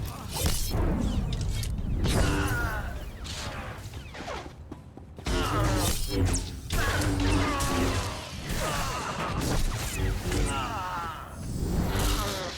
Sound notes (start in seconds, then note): 0.0 gunshots